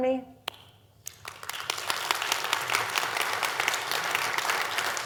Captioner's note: audience applauds